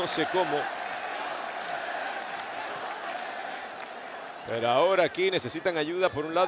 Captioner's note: applause